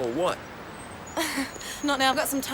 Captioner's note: Jodie laughs